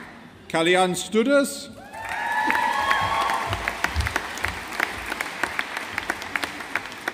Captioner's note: audience applauding